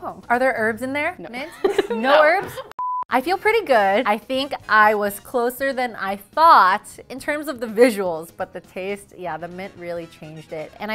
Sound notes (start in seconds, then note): 2.8 intermission beeping